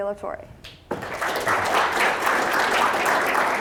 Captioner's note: audience applauding